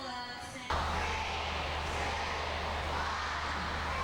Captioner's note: all cheer